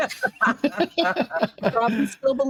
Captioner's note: everyone laughing